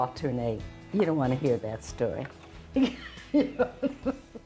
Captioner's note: laughs